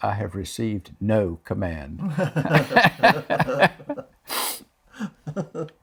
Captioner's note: laughs